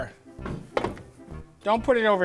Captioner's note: tray bumps